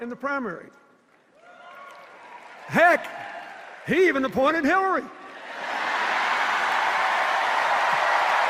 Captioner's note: applause and cheers; sustained applause and cheers